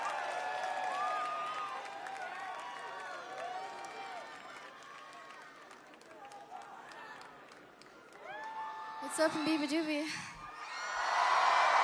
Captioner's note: crowd cheering